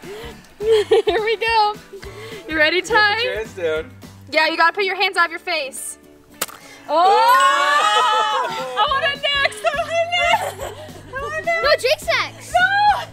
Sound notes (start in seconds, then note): 0.5 laughing; 6.3 balloon pops; 7.3 ding